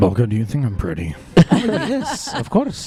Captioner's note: laughter